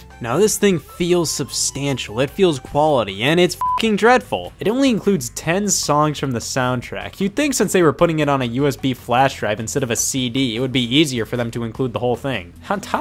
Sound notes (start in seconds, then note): 3.6 beep